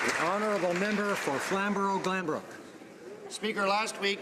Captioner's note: applause